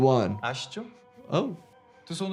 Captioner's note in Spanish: reclutador hablando en coreano